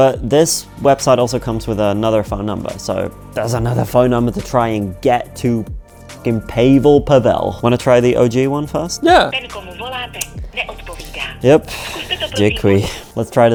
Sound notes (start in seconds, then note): 10.0 operator speaking in foreign language